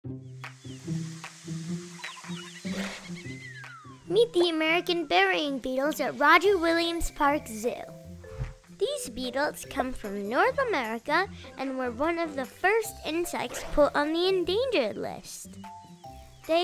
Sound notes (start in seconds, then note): 0.1 bright upbeat music; 0.1 birds chirping; 0.6 leaves rustling